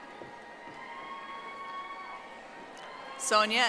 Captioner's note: audience applauding